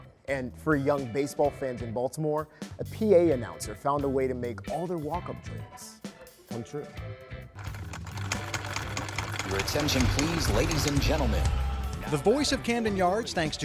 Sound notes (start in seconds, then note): 7.6 sewing machine hums